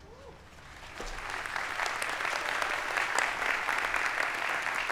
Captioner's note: audience applauding